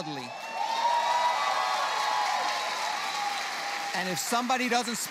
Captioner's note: cheers